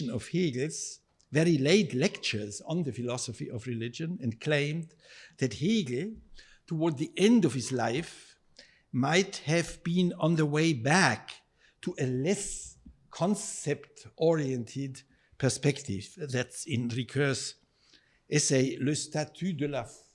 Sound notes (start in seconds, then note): 17.5 speaking in foreign language